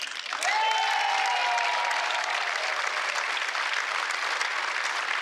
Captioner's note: applause